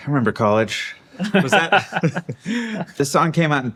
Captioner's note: laughing